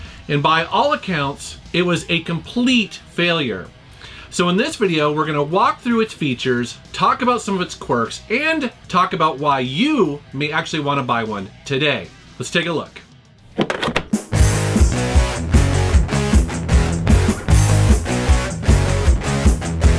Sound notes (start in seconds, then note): 13.5 thudding; 14.3 electric guitar riffs